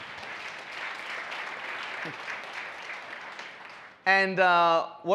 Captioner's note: audience applauds